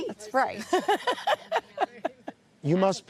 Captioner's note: laughs